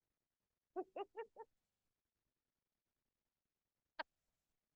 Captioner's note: laughing